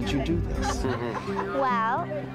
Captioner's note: laughs